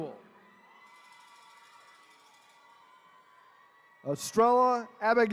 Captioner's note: attendees cheering